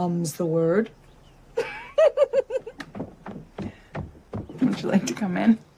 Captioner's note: giggles